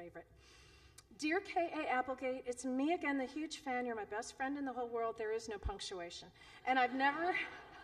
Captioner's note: laughter